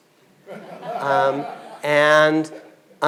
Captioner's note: audience laughing